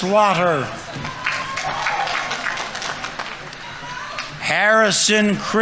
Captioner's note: audience members cheering; audience applauding